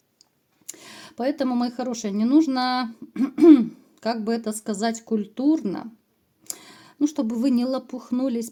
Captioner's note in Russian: откашливается